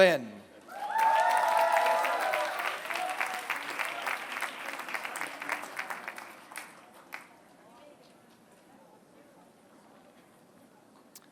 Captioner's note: applause